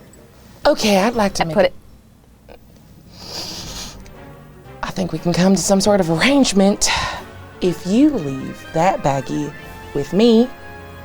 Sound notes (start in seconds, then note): 2.9 sniffs